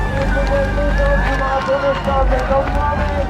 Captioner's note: crowd cheers